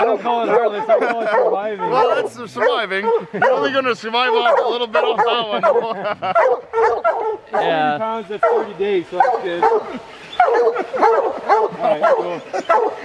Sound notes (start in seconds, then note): 0.0 men laughing; 6.1 chuckling; 8.2 dogs barking